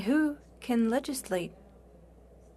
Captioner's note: speaking French